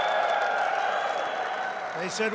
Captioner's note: applause